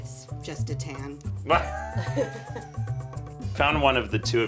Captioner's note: laughing